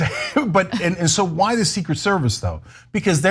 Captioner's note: laugh